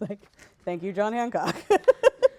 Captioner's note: laughs